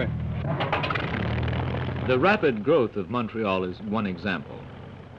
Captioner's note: engine sputters to life